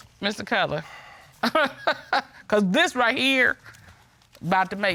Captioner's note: chuckles